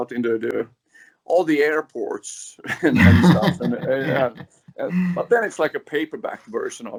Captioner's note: laughs